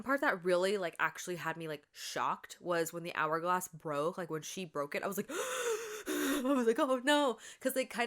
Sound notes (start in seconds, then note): 7.4 gasp